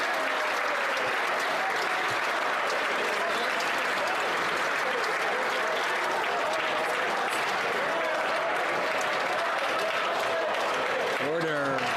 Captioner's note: some Applause